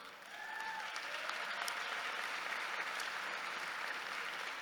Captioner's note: audience applauding